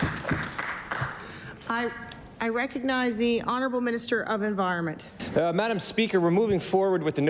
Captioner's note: applause